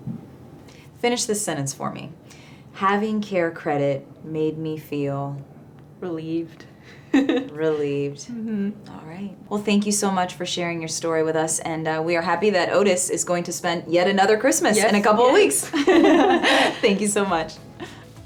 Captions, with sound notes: -Finish this sentence for me, having CareCredit made me feel- -Relieved. [chuckles] -Relieved. All right. Thank you so much for sharing your story with us. We are happy that Otis is going to spend yet another Christmas in a couple of weeks. [laughter] Thank you so much.